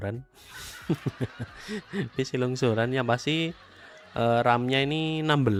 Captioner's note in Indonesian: tertawa